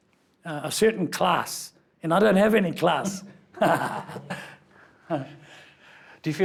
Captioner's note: laughs